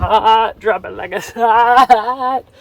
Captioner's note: laughing